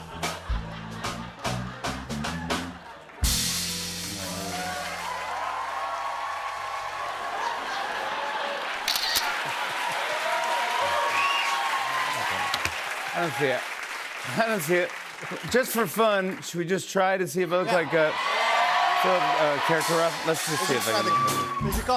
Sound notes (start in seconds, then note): 0.0 laughter; 5.2 cheers and applause; 7.3 laughter; 8.8 camera shutter clicks; 10.1 cheers and applause; 17.5 cheers and applause